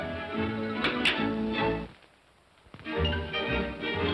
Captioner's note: whimsical music; comb clatters down; whimsical music